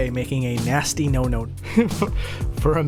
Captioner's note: laughs